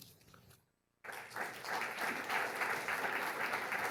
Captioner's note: applause